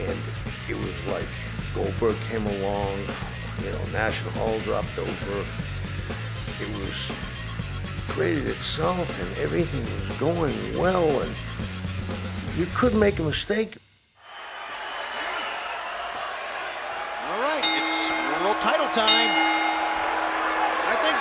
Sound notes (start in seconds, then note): 14.2 audience cheers and shouts; 17.5 bell rings